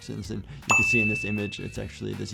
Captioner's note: image popping and dinging